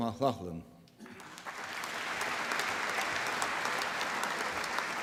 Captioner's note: applause